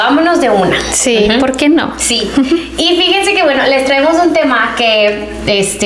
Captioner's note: clears throat